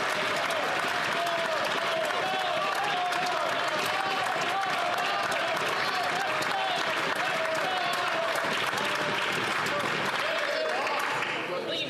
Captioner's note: chatter